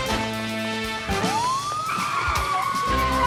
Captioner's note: upbeat music; siren wailing